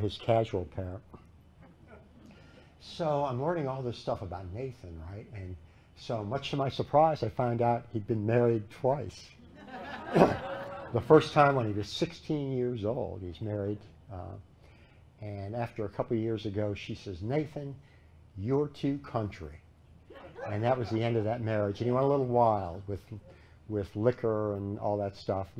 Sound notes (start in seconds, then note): 9.4 laughter